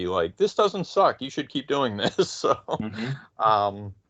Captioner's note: laughing